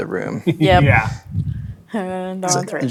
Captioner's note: laughs